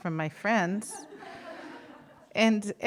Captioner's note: audience laughing